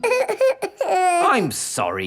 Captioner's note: whimpers